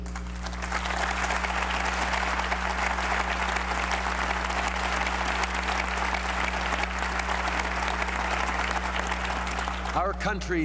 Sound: applause

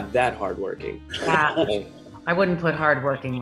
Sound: Rachel laughs

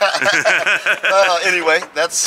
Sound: both laugh

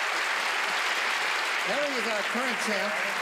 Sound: applauding

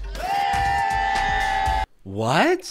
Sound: people booing

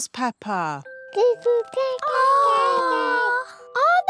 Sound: babies gurgle

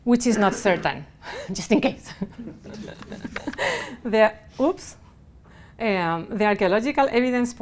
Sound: laughing

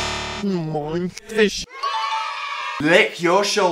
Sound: audio reverses; buzzer sounds; audio reverses; children cheering

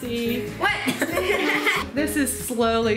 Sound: everybody laughing

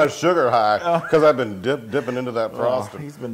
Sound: laugh

